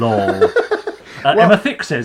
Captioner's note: laughing